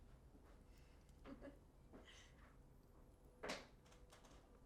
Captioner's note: laughing